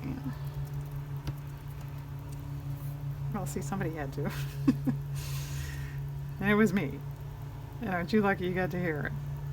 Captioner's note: laughs